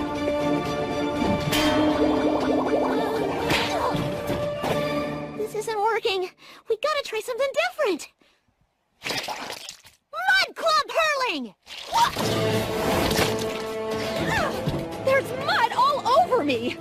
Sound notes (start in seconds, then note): 1.6 clang